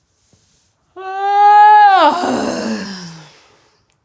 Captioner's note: yawning